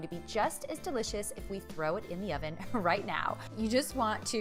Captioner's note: chuckles